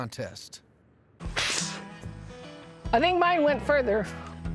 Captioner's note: both spitting